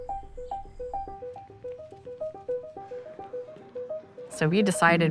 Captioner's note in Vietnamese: nhạc vui vẻ; tiếng bước chân lách cách, giọng nói thì thầm